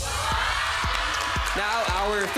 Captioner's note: crowd cheering